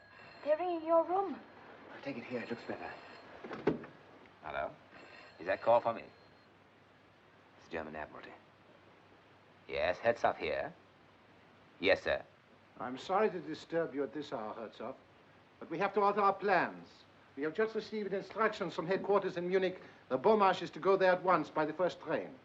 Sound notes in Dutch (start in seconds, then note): 4.9 het rinkelen gaat door, stopt